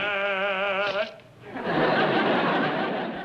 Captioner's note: laughs